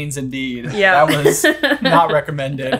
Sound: laughing

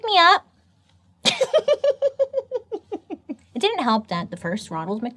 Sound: laughs

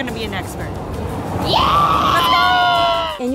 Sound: excited screaming

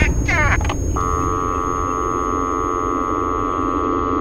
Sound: beeps

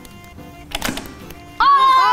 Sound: toy pops

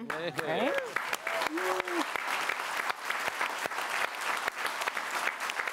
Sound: applause

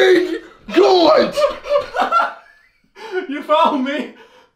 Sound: Harry laughing

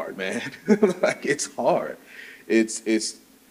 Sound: chuckles

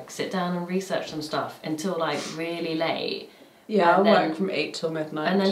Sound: none

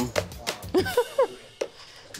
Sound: laughs

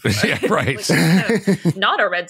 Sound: laughter

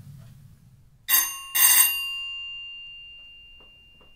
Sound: bell rings

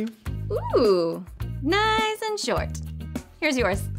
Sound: moaning

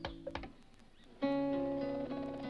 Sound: wings sputtering

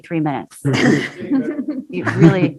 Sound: laughing

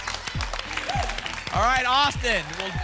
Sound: applause and cheering

